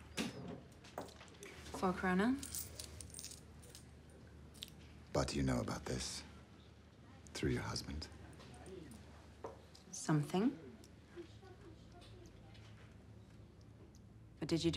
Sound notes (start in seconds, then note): 2.3 coins clinks